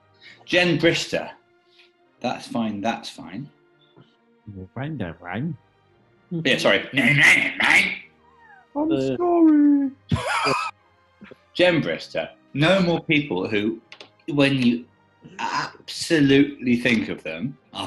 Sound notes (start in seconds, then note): 4.2 childish voice; 7.3 mimics horne; 8.6 falsetto; 10.1 laughing